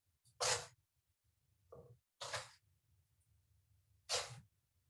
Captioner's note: dough scraping